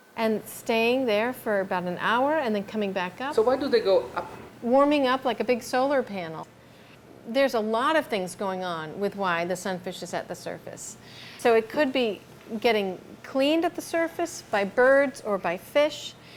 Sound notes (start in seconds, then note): none